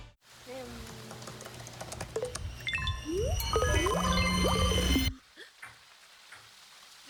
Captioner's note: SFX: computer sounds